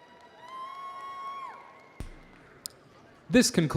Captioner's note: audience cheering